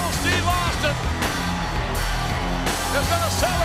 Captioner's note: audience cheers